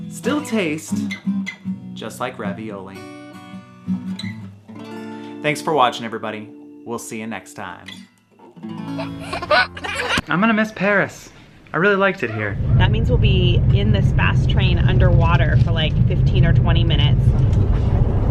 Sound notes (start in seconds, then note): 8.8 baby laughing